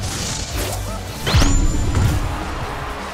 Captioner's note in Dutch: publiek juicht